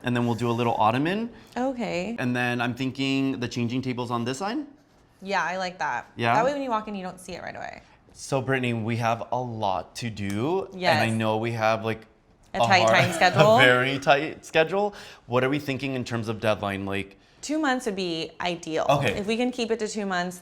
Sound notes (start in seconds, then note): 12.7 laughs